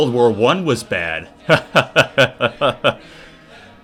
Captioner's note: laughing